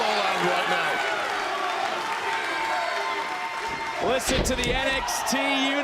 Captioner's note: crowd cheering